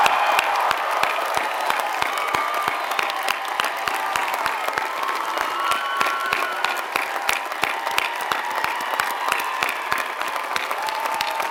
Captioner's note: applause